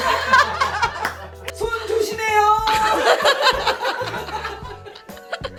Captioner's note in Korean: 웃음; 웃음